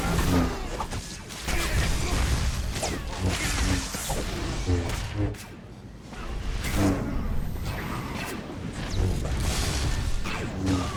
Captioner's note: gunshots